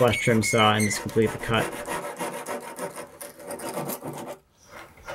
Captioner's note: saw scrapes